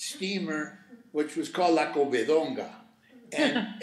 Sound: speaking Spanish

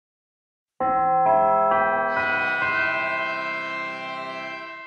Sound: bell chimes

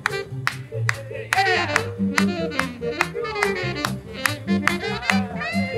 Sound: clapping

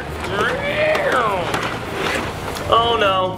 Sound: car engine revving

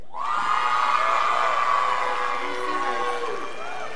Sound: scholars applauding

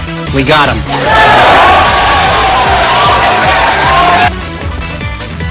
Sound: shouting

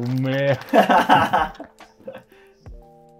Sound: laughing

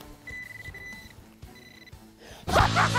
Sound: beeping

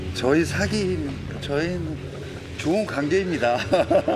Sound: he's even stuttering

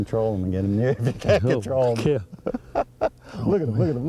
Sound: laughter

